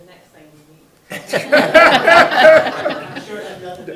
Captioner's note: audience laughing